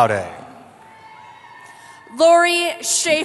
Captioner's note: cheering